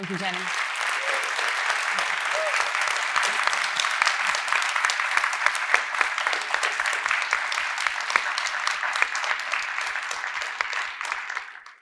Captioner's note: audience applauding